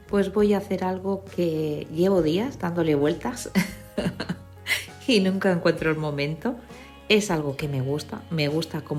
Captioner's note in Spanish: risas